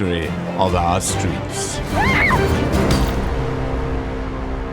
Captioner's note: screaming